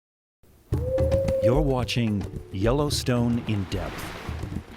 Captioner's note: coyote howl, music and the sound of a geyser erupting